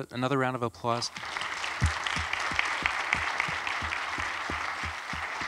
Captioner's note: audience applauds